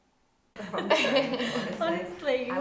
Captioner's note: group laughing